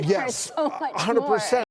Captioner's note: chuckles